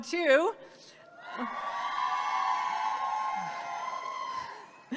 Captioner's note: audience cheers